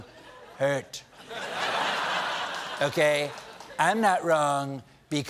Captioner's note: laughter